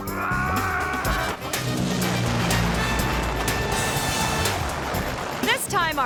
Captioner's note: upbeat instrumental music; screams; airplane whooshes